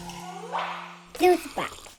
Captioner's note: graphics pop